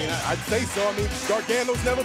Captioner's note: crowd cheering